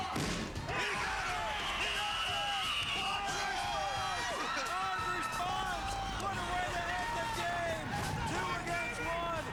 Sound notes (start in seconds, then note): 1.5 whistle blows; 4.2 cheers plause